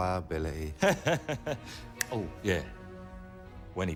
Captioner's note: laughs